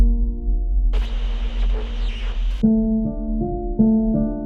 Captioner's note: static; haunting piano music